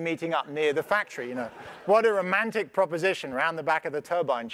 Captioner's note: laugh